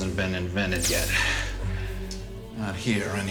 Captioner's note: Hypo-spray hissing